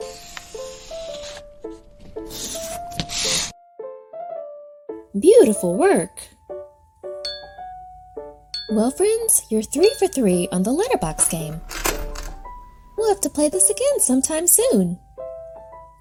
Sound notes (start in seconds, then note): 0.0 pencil scratching; 7.2 objects dinging; 10.9 metal clanking